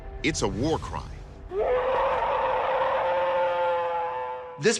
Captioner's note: alleged bigfoot roaring